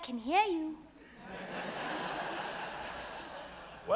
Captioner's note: audience laughs